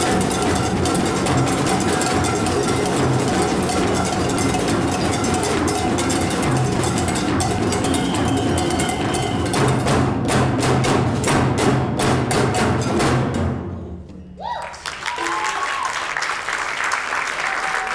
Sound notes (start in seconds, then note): 7.7 whistle blows; 14.6 audience applauding